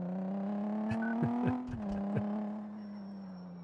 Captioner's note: laugh